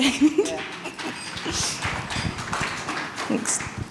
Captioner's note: audience applauds